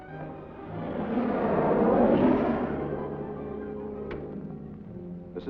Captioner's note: car rumbling